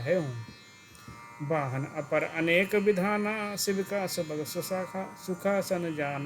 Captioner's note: घंटे बजाते हुए